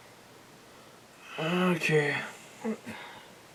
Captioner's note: tired